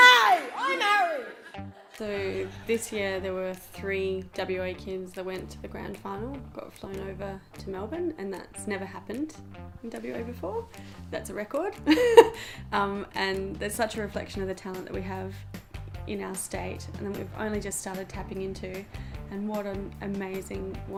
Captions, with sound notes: Hey, I'm Harry! (audience laughs) - This year, there were three WA kids that went to the Grand Final, got flown over to Melbourne, and that's never happened in WA before. That's a record, and that's such a reflection of the talent that we have in our state that we've only just started tapping into, and what an amazing,